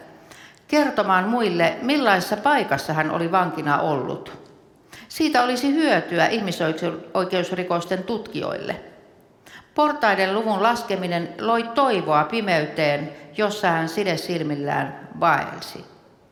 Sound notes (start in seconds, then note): none